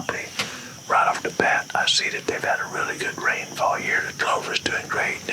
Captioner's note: whispering